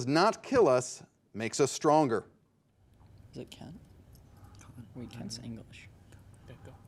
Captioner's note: contestants chatting